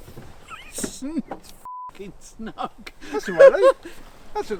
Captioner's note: beep